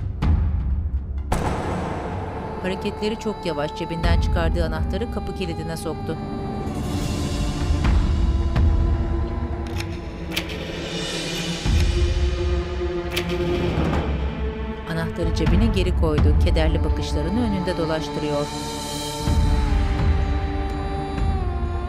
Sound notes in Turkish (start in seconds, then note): 1.1 Kapı kapanma sesi; 3.3 Müzik - Gerilim; 9.5 Kapı kilitleme sesi; 14.8 Müzik - Gerilim